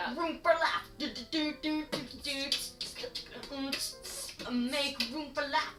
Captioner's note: starts beat boxing